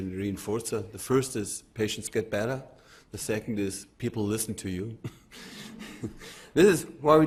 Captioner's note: laughs lightly